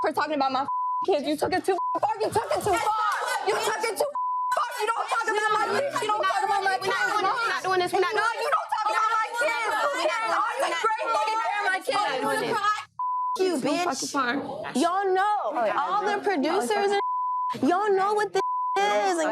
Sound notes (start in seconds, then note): 4.6 yelling; 6.3 girls yelling over each other; 18.3 beep